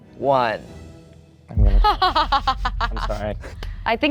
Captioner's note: laughing